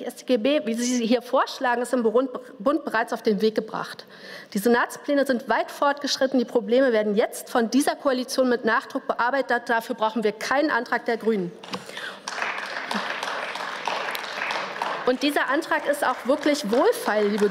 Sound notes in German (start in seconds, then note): 11.8 Beifall